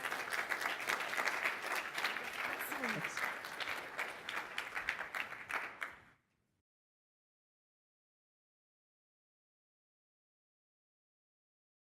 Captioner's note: applause